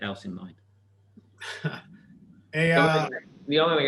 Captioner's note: laughs